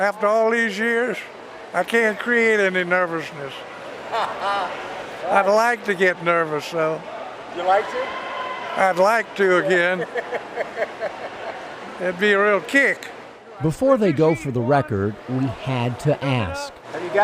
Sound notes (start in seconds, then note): 4.1 laughs; 9.6 interviewer laughs